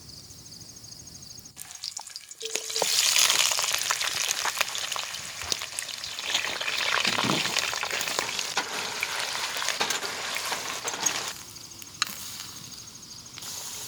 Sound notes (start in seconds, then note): 1.6 sizzling fries